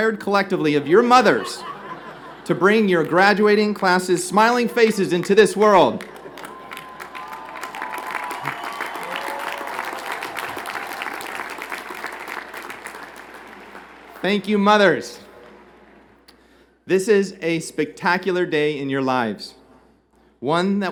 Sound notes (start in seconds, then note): 11.8 applause